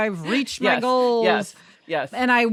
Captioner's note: laughs